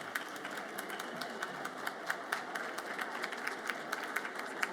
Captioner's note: audience applauds